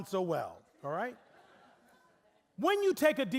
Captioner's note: audience laughing